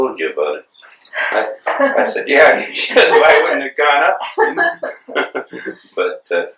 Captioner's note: laughter